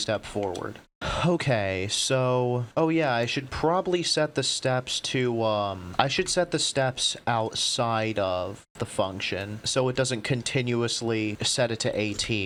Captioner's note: sigh